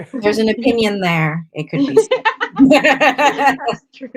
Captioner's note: laughter